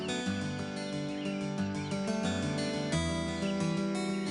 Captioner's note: birds chirp